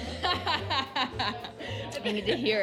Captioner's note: she laughs